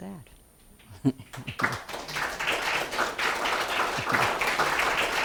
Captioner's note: audience applauds